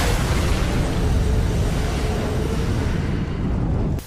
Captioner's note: debris crashing; ogre yelling